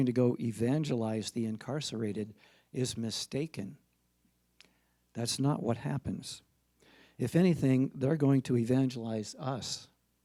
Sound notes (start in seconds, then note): none